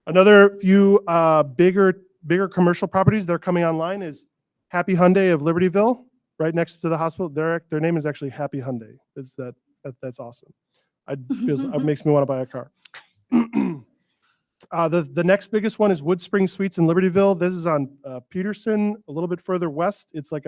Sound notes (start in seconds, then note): 11.4 board members chuckling